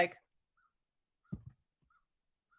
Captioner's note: soft thud